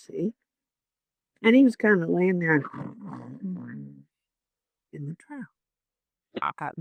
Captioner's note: snoring